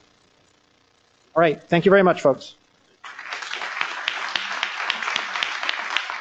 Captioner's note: applause